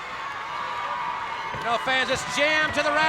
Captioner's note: crowd cheering